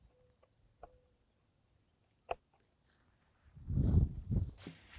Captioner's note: tube rustling